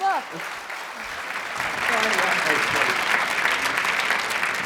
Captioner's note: audience applause